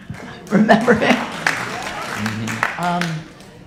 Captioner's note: audience applauding